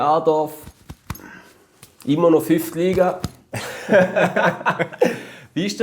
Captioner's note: laughter